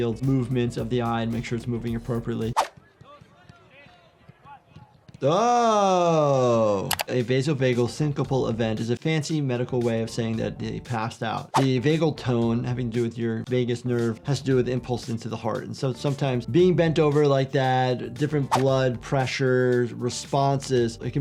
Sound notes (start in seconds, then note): 5.2 player mumbling; 6.9 keyboard clicking